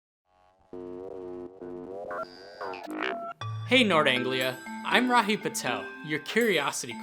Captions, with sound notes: [Funky space sounds] Hey, Nord Anglia. I'm Rahi Patel, your Curiosity